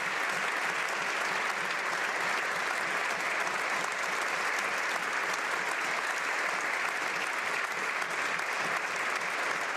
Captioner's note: applause